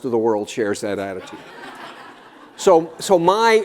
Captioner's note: laughter